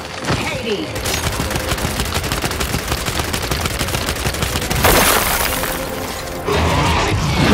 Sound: gunshots

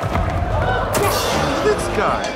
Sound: gasps

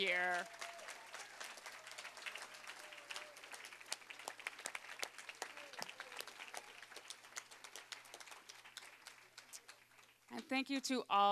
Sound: applause

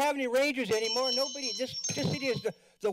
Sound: bell rings

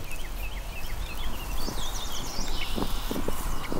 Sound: birds singing

